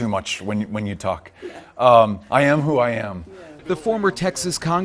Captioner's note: laugh